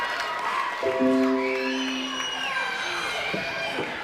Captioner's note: cheering